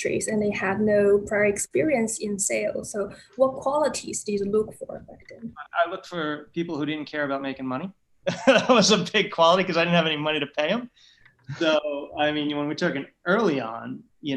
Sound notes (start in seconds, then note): 8.2 laughter